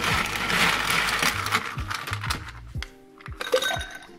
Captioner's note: ice clicking; ice dropping